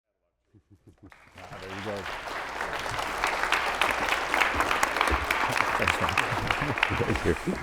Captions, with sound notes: (audience applauding) - There you go. - Thank you.